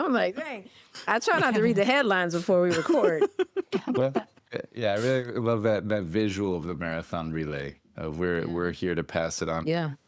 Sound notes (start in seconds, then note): 2.8 laughs